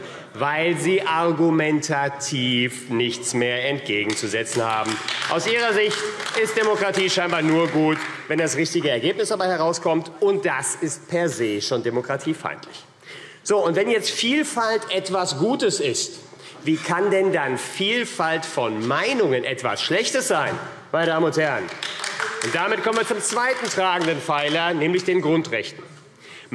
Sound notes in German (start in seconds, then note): 4.0 Beifall AfD; 21.5 Beifall AfD